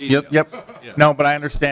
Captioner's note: laughter